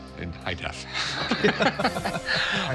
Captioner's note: both laugh